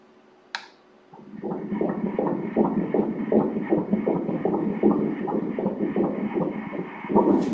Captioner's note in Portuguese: batimentos cardíacos